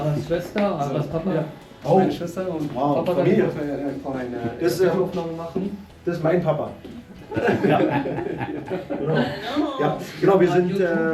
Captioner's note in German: gelächter